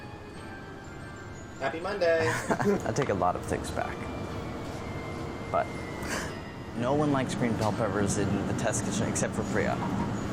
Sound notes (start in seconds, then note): 2.2 laughs